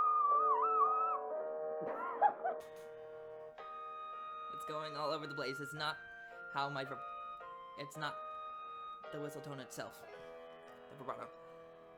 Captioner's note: laughs